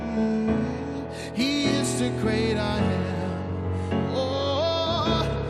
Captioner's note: humming